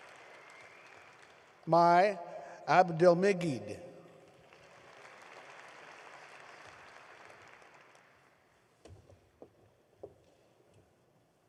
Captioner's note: applause